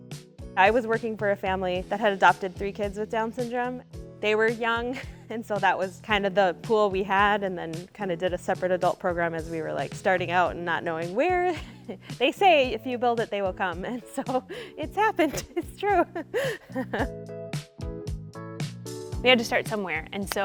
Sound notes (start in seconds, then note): 15.2 laughing; 18.1 upbeat music